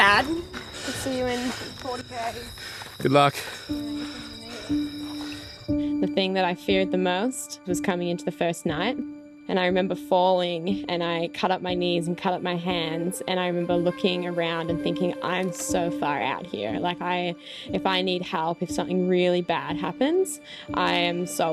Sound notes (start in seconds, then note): 5.0 crickets chirping; 5.0 soft music